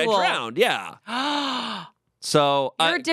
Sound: gasps

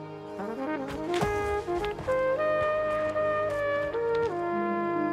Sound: footsteps

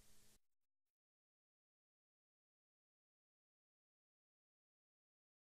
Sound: silence

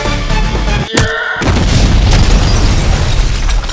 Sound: explosion

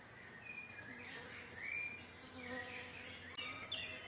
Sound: birds chirping

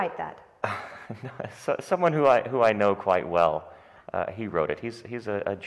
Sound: chuckles

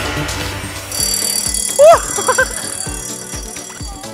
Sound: alarm

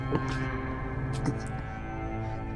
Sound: gags

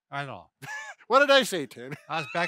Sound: chuckles

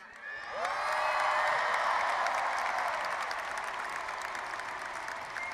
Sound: audience applauding and cheering

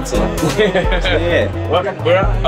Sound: laughter

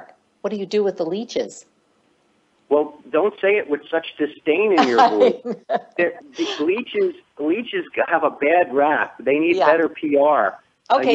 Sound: laughing

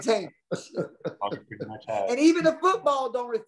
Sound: chuckles

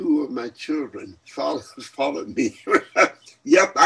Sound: laughs

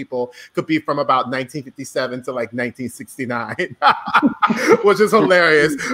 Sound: laughs

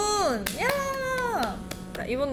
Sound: clapping

